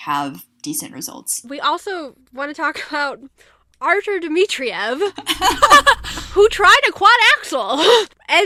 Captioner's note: hosts laugh